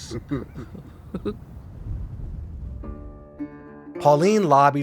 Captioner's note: chuckle